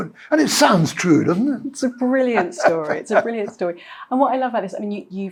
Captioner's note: laughs